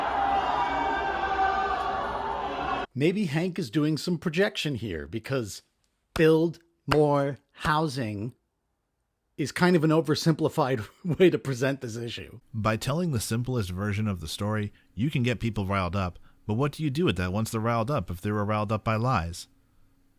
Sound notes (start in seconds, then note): 6.9 clap